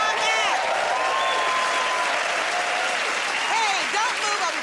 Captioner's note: cheers and applause